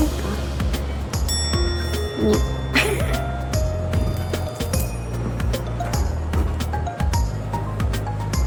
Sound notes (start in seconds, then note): 2.7 crying